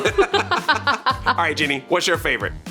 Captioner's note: laughter